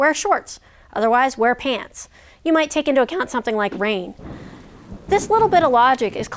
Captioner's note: thunder rolling, rain falling